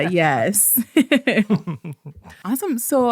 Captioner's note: both laughing